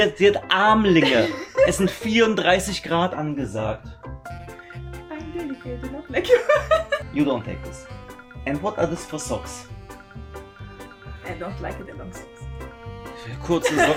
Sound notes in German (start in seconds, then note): 6.2 gelächter